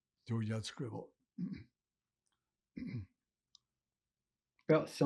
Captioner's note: clears throat